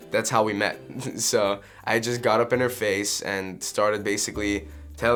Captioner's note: laughs